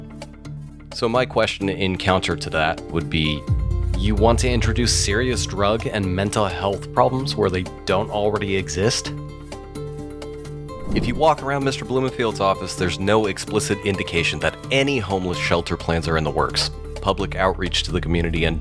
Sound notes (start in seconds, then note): 10.7 air whooshes